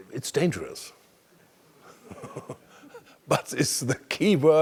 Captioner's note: laugh